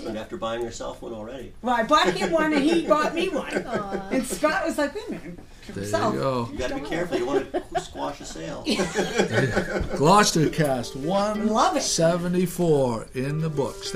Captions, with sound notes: after buying herself one already. - [Voiceover] Well I bought him one and he bought me one and Scott was like hey wait a minute. - [Voiceover] You gotta be careful, you wanna squash a sale. (laughing) - [Voiceover] Gloucester cast 174 in the books,